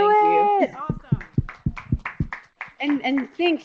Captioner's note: applause